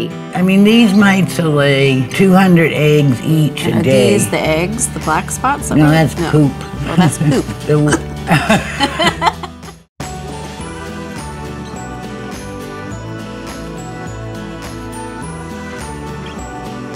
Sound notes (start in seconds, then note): 8.2 laughing; 10.1 upbeat music playing